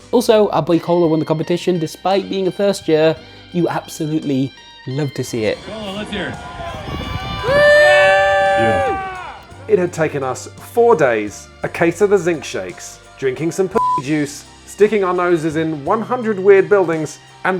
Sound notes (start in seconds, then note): 8.3 audience whoops; 13.8 beep